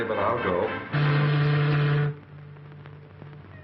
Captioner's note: ship's horn